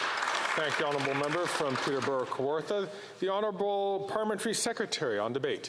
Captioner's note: some Applause